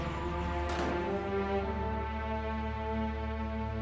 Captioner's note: distant door closing sound